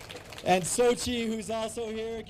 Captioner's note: applause